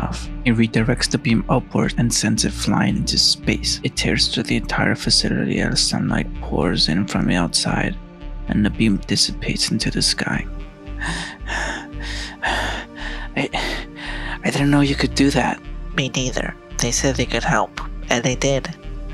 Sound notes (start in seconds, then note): 11.0 out of breath